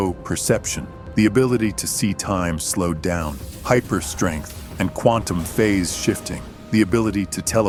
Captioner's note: quantum phase shifting